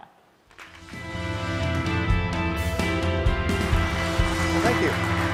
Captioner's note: pop rock music; applause